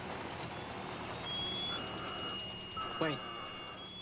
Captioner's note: piercing sound over radio